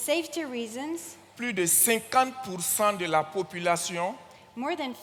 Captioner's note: continues in French